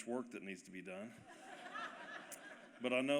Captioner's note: laughter